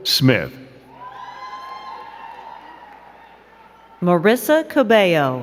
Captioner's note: crowd cheering and clapping